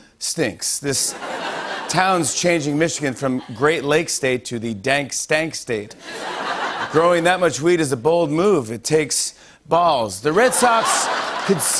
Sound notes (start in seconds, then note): 1.0 laughter; 6.0 laughter; 10.4 laughter and applause